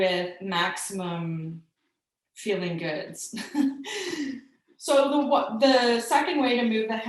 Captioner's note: chuckling